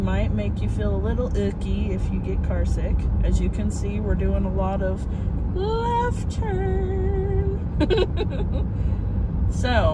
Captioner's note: giggle